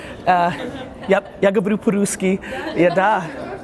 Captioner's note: speaks in foreign language